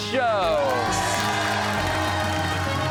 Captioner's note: cheers and applause